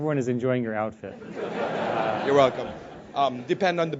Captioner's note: laugh